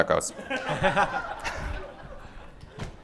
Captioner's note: laughter